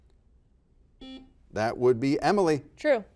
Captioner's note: buzzer buzzes